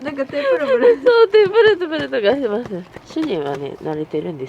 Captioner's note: laughter